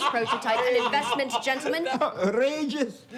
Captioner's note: group laughing